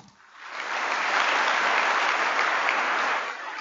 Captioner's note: applause